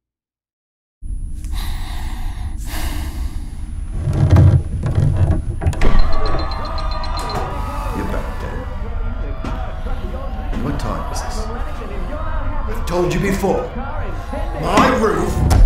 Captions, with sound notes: (Sighing) (Crowd cheering on TV) - You're back then? What time is this? I've told you before, my roof...